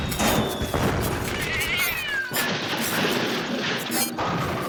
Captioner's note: computer sounds, explosions, bangs and clanging of metal; cat howl